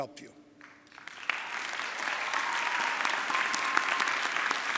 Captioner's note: audience clapping